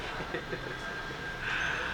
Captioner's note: laughing